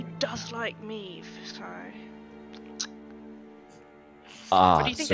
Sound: clicks tongue

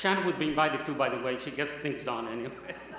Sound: laughter

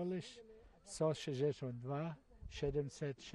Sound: speaking polish

